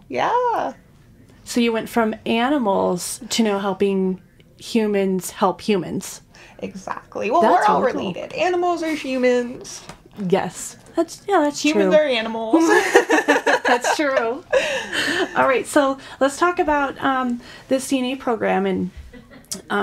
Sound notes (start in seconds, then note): 12.5 women laughing; 19.1 woman laughing